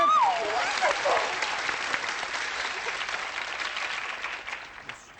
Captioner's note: applause